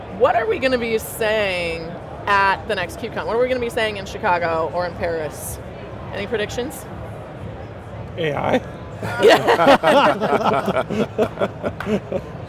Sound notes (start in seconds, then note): 9.0 all laughing; 9.0 laughs